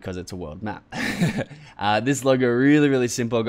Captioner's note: laughs